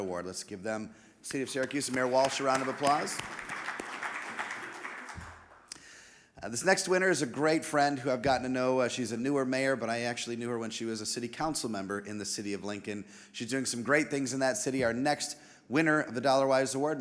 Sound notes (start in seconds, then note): 3.6 audience applauding